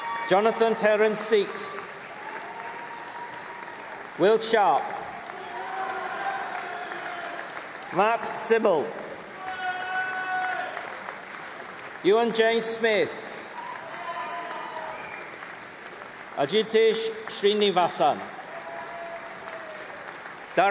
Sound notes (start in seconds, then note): 0.0 applause; 3.4 applause; 6.4 cheering; 11.6 applause; 19.2 applause